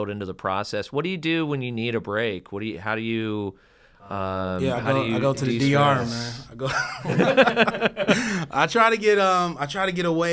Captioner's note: laugh